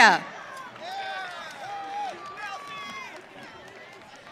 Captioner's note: audience cheering